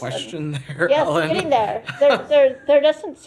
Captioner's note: laughter